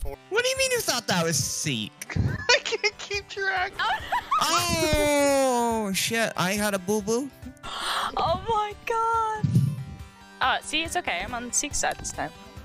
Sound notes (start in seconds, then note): 2.0 laughing